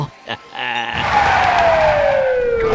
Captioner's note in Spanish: Ellis continúa riéndose; auto derrapa